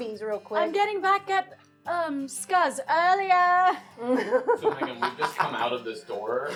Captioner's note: laughing